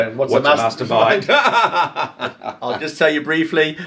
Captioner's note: laughing